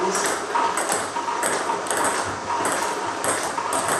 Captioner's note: ball ping pong hitting